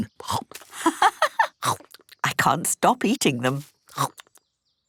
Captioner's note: laughing